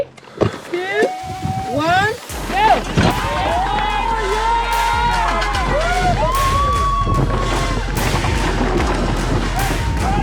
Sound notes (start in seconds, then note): 2.9 spectators cheering; 2.9 upbeat music